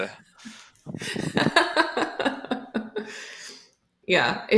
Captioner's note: laughter